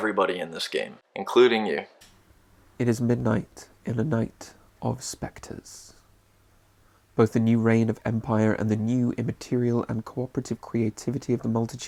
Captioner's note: male British voiceover